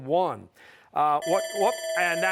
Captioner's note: bell ringing